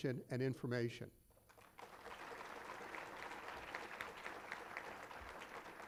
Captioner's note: applause